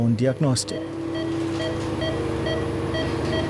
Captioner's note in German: Piepen